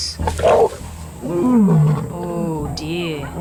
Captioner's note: roars